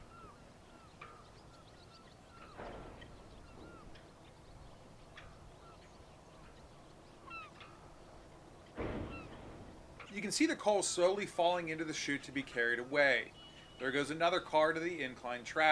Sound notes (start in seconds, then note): 0.0 birds chirping